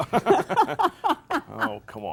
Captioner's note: both chuckle